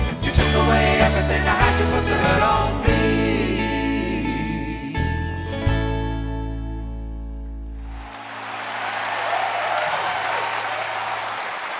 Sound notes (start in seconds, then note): 7.8 crowd clapping and cheering